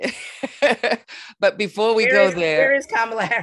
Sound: laughs

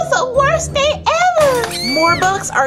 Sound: screaming; glass breaking

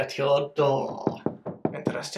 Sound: knock knock knock

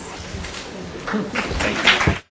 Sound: applause

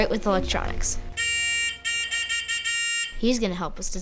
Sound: beeping

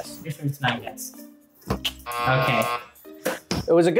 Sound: buzzer rings

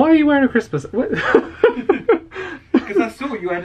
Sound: laughs

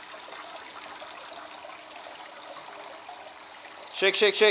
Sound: water splashing

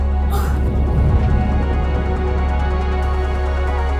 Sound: soft music; gasps; soft music continues

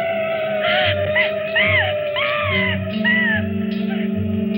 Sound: screaming

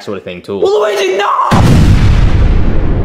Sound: explosion bangs

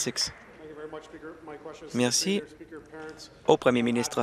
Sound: applause

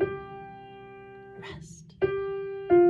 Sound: whispers

